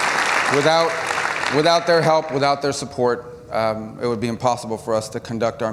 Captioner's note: applause